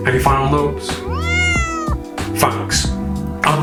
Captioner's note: Charlie meows